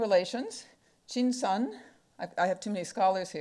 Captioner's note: speaking foreign language